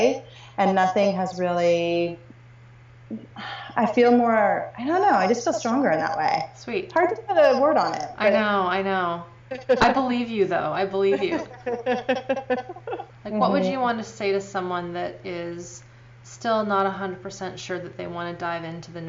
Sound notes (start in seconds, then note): 11.1 laughing